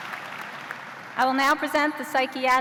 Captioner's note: cheers and applause